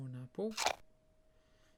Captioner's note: apple munching sound